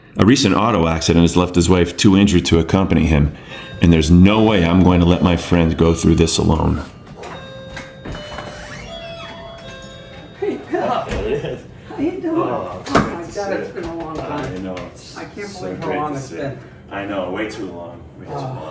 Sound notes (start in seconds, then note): 8.7 doorbell